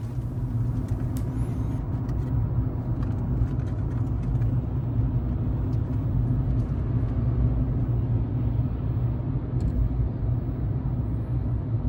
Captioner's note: car noise